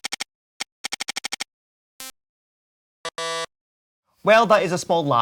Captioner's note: computer Noises